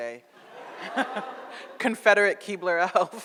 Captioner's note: audience laughs